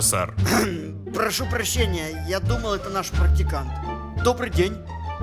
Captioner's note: clears throat